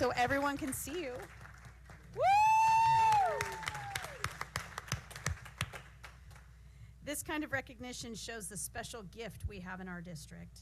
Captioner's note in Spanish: aplausos